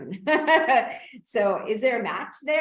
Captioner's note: laughs